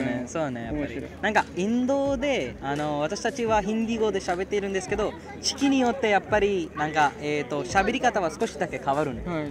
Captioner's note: dialect